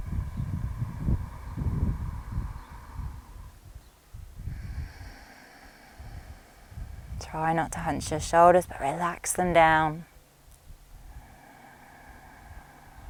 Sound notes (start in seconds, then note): 0.0 inhales deeply; 4.4 exhales deeply; 11.0 inhales deeply